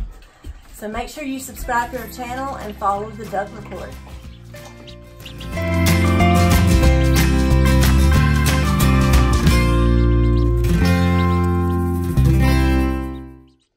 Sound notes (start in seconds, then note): 3.9 ducks chirping; 5.4 outro Music